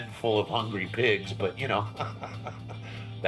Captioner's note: laughs